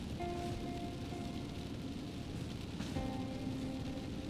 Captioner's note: rain hitting windshield